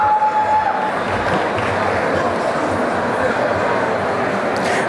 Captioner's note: applause and cheering